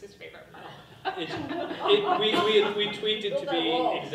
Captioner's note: people laughing